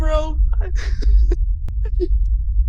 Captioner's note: sobbing